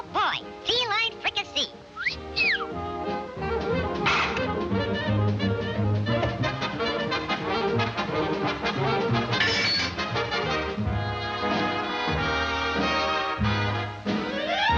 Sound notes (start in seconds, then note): 1.9 whistling; 3.9 fervent music; 9.4 stove top clattering; 11.7 dismal music